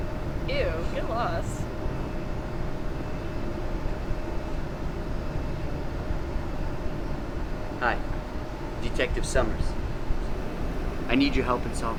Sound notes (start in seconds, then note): none